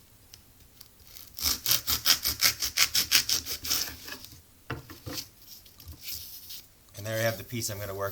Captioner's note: sound of knife cutting through foam